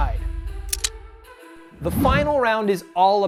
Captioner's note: clicking